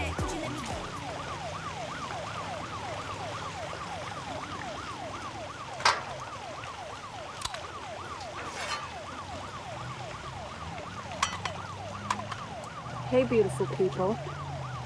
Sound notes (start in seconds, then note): 0.1 sirens wail; 5.7 metal clanks